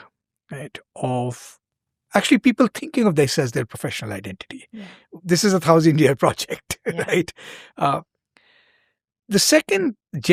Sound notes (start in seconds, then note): 8.6 chuckles